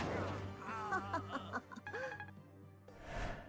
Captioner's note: wicked laughter